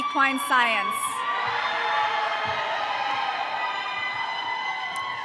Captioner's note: audience cheering